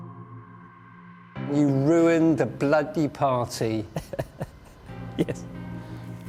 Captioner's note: laugh